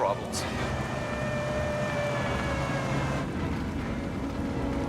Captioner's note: storm siren rings